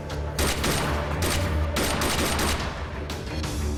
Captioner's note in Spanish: Disparos